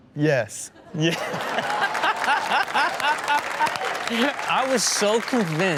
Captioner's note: audience laughs